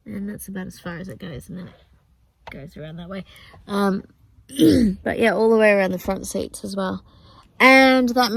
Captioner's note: clears throat